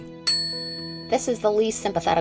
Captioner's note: bell rings